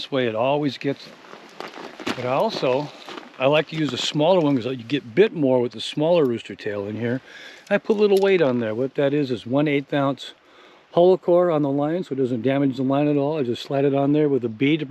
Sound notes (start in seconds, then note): none